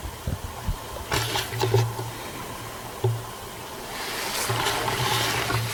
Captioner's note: camera scratching